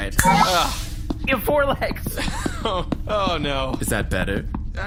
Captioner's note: snaps fingers; laughing; plodding footsteps